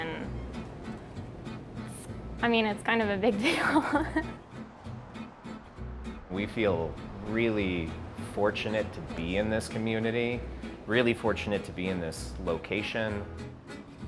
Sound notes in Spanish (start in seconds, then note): 7.0 se ríe; 7.9 música de guitarra alegre